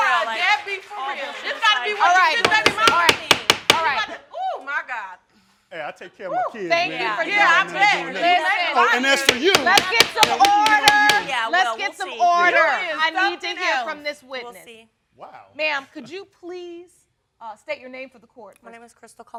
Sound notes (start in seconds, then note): 2.4 bangs gavel; 7.4 all yelling